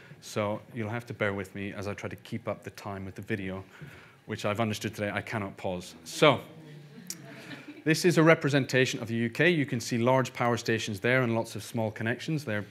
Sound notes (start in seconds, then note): 7.0 audience laughing